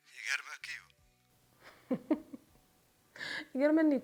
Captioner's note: laughs